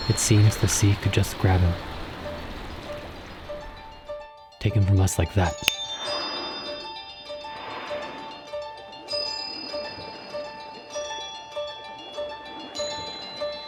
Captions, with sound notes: It seems the sea could just grab him. Take him from us like that. [fingers snapping] [light music continues]